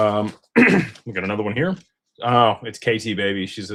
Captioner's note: clears throat